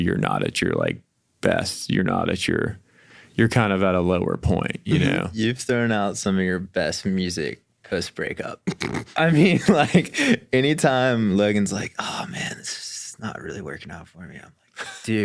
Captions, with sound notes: but, like, maybe you're not at your, like, best, you're not at your, you're kind of at a lower point, you know. - You've thrown out some of your best music post-breakup. I mean, [chuckles] like, anytime Logan's, like, "Oh, man, this is not really working out for me,"